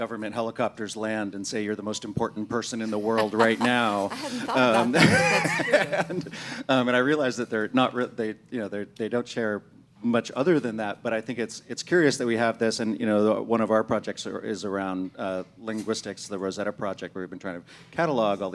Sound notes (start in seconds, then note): 5.2 laughing